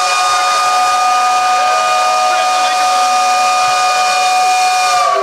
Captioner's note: whistle blowing